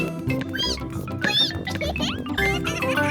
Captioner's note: squeaking